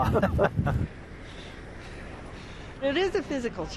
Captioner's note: breathing deeply